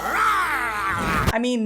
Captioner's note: roaring noises